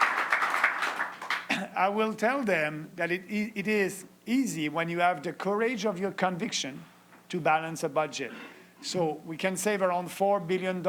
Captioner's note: cheering and Applause